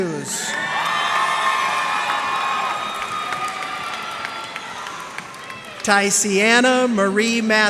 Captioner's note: cheers and applause